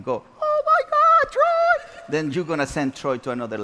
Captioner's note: audience laughs